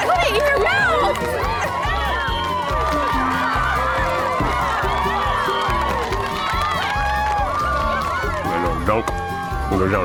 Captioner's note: cheering